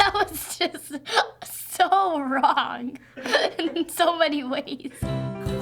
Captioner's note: laughing